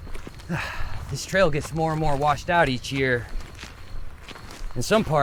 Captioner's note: footsteps crunching; insects chittering; sighs